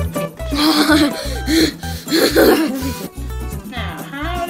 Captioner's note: Toby grunting